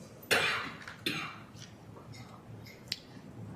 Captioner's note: cough